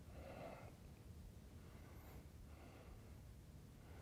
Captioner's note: breathes deeply